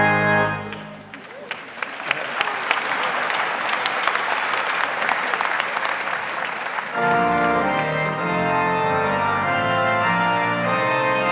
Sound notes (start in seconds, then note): 0.6 audience applauds; 6.2 stately organ music